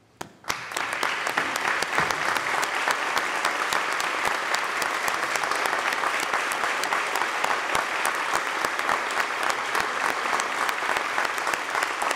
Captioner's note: applause